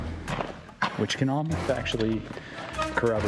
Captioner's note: laughs